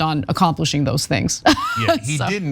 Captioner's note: laugh